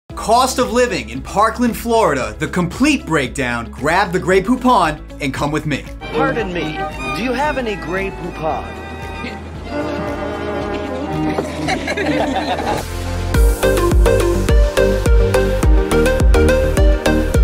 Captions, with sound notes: - Cost of living in Parkland, Florida, the complete breakdown, grab the Grey Poupon, (pleasant music) and come with me. - Pardon me, (orchestral music) do you have any Grey Poupon? (friends laughing) (graphics whoosh) (upbeat electronic music)